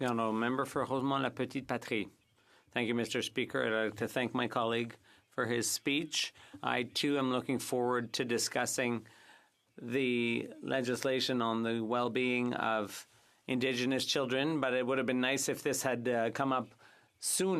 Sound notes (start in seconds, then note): 7.8 speaking French